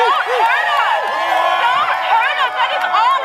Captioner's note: cheering